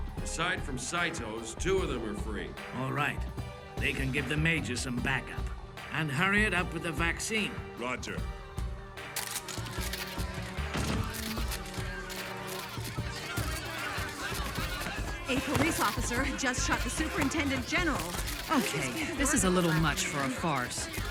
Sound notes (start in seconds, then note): 9.0 cameras clicking; 9.0 people clamouring